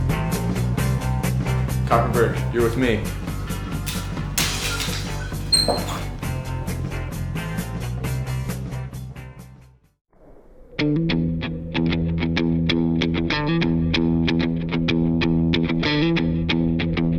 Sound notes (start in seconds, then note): 4.7 squeak; 5.2 creak; 5.2 squeak; 5.7 creak; 5.7 squeak